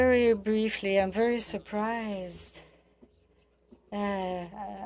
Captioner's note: speaking in French